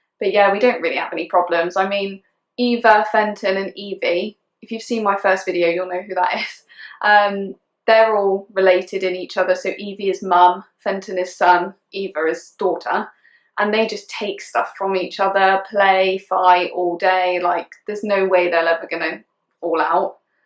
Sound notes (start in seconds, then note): 7.4 laughing